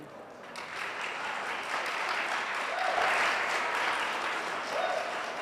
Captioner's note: audience applauds and whoops